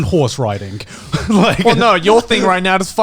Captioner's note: Connor laughing